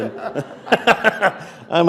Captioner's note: laughter